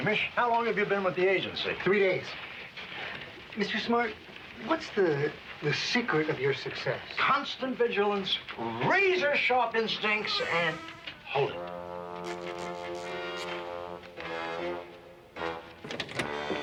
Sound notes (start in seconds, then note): 9.8 creaking; 12.2 tense music